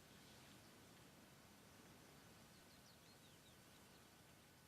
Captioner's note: tree rustling